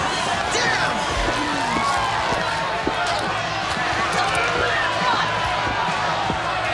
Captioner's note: people cheer; kicks thudding